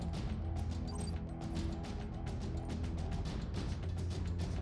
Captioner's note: suspenseful music continues; monitor beeps